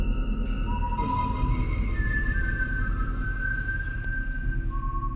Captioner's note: Mad Umpire whistling